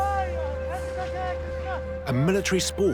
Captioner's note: men shouting